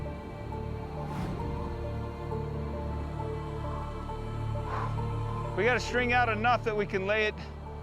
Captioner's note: wind blowing